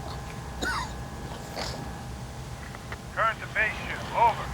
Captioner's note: coughing